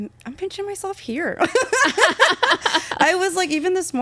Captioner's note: laughing